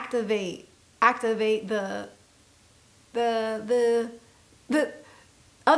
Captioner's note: stammers